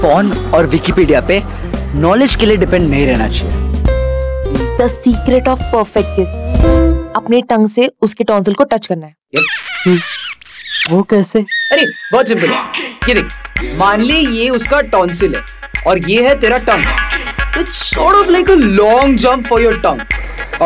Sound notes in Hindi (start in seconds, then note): none